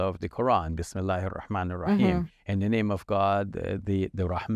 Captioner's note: speaks foreign language